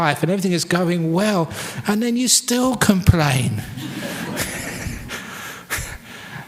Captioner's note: laughter